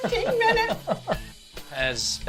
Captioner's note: laughs